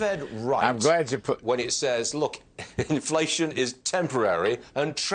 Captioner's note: laughter